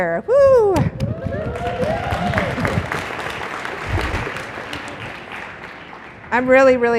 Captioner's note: applause